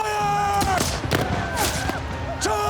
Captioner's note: gunfire